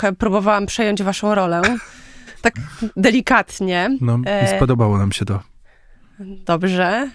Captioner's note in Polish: śmiech